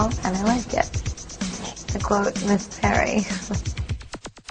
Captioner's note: laughs